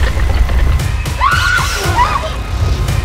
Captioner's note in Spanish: scream